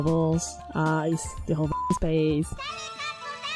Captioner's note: beep